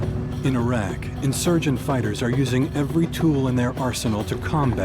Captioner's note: voiceover